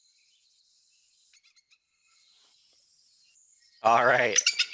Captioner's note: bird squeaking